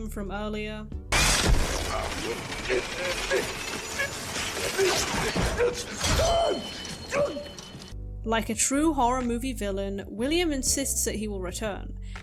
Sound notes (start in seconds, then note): 1.0 Afton yelps; 1.0 Cupcake munching noises